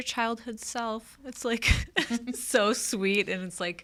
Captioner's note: chuckles